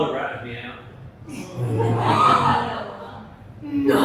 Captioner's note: laughter